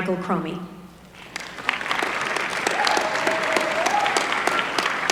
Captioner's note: applause